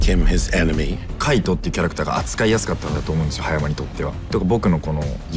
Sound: speaking in japanese

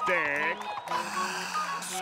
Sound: gasping

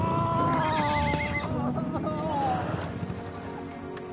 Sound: horse neighs

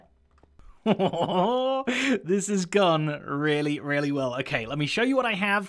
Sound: laughing

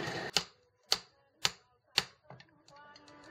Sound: tapping

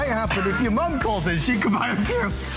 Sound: laughter

